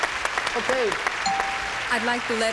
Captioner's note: cheers and applause; bell rings